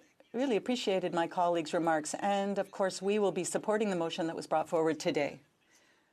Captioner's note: speaking in French